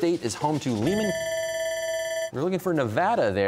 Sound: bell ringing

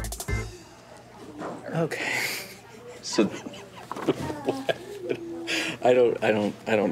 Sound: laughs

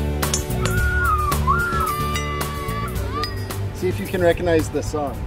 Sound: clanking metal

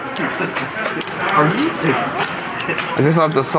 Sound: players murmuring in background

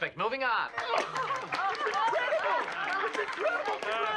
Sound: clapping and cheering

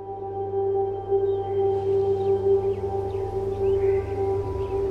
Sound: mysterious music; birds singing

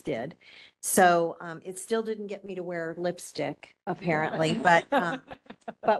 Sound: laughing

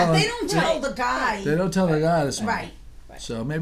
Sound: voiceover

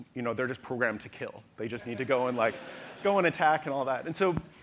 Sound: audience laughter

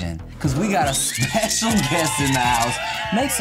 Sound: crowd cheers, flashbulbs pop

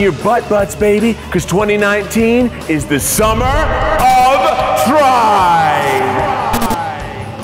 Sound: echoing

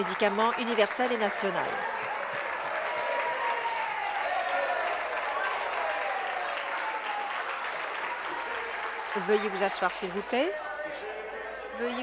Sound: applause

